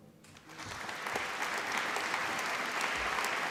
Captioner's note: applause